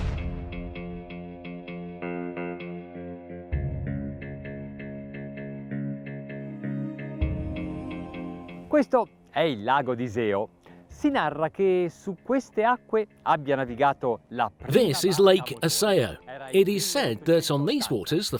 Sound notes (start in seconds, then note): 0.2 dramatic music; 9.0 speaks in foreign language